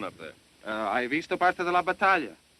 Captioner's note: speaking italian